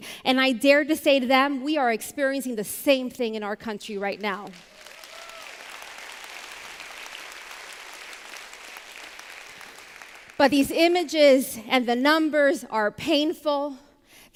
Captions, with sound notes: And I dare to say to them, we are experiencing the same thing in our country right now. [APPLAUSE] But these images, and the numbers are painful.